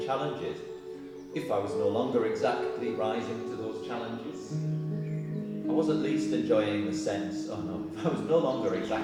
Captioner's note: laughs